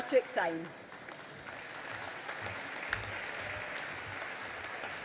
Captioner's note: audience applauding